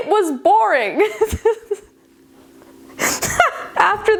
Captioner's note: giggling